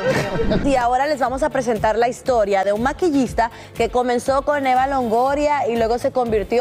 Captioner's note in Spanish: risas